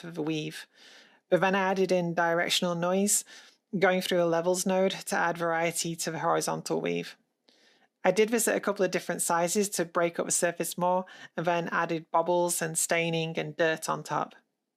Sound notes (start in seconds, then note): none